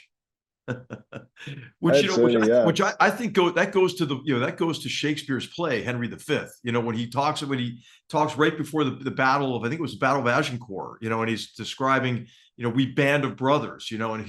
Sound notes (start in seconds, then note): 0.7 laugh